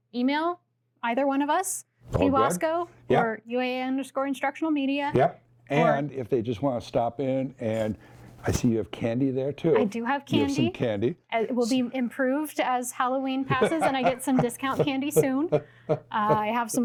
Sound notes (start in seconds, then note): 13.4 laughs